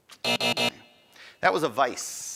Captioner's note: end time buzzer rings